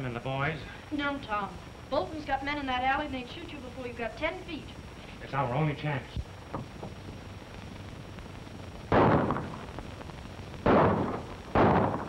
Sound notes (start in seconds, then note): 8.9 gunshots